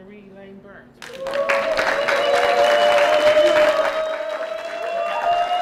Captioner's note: applause